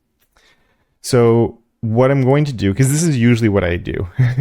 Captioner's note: laugh